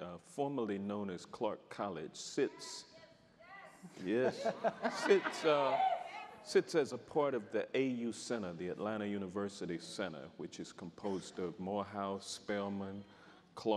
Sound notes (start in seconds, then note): 3.3 audience member shouting